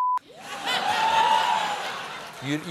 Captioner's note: laughter